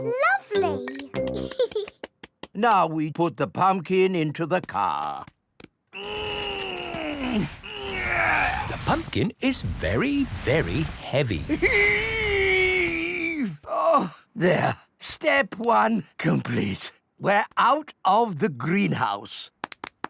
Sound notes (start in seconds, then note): 1.4 giggles; 5.9 straining